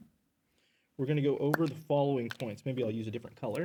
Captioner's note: marker clacks